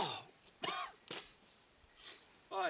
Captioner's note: gagging